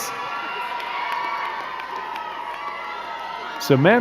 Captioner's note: crowd cheering and clapping